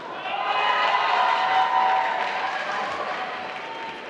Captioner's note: applause